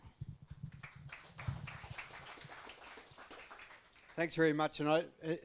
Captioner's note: audience applauds